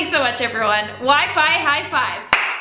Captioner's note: claps